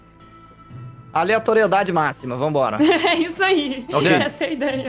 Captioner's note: laughs